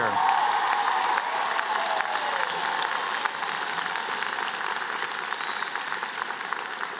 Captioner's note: cheers, laughter